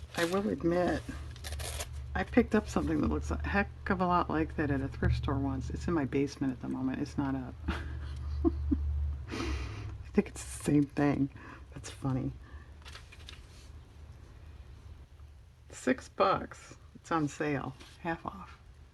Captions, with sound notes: I will admit, I picked up something that looks a heck of a lot like that at a thrift store once, it's in my basement at the moment, it's not up (laughs) I think it's the same thing, that's funny six bucks, it's on sale, half off